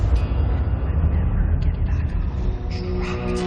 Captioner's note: tormented whispers